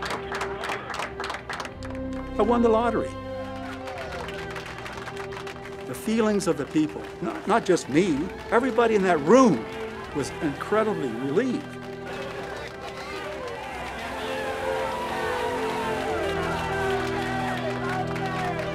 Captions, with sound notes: - I won the lottery. The feelings of the people, not just me, everybody in that room was incredibly relieved. (applause)